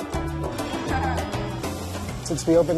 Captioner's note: laughs